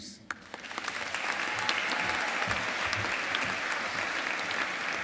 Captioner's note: audience applauding